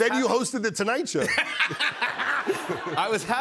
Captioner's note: laughter